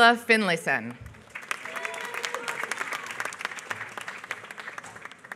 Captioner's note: applause